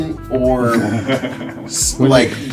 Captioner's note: laughs